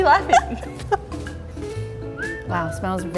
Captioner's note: laughs